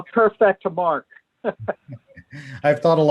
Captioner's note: laughter